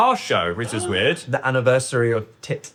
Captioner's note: gasping